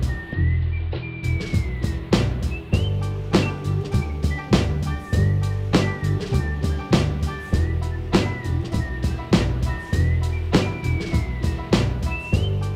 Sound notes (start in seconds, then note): none